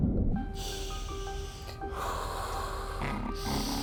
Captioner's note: breaths hissing